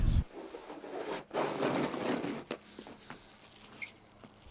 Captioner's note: shovelling snow